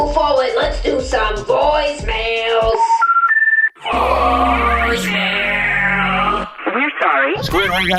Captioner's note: dial up sounds